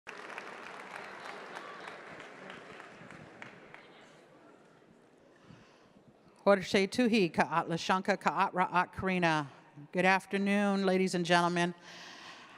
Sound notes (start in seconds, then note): 0.0 audience clapping; 6.6 speaking in foreign language